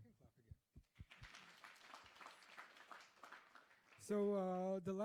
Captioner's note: applause